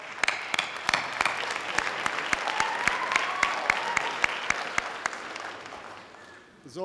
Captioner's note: audience cheering; audience applause